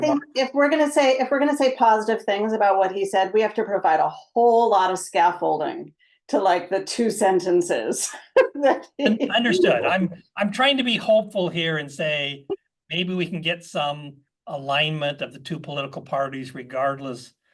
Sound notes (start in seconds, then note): 8.1 laugh